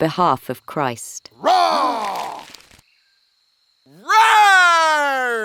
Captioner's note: Paul's voice roaring; man roaring